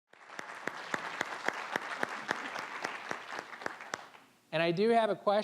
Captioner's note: applause